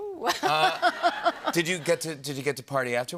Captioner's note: laughter